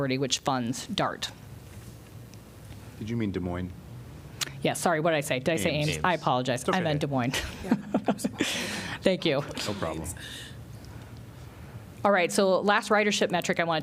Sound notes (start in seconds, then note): 7.3 laughter